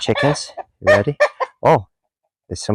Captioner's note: chickens clucking